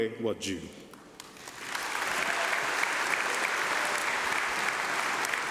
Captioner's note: applause